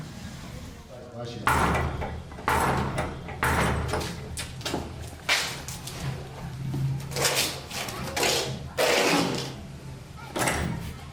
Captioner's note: knocking at the door to his shrine before entry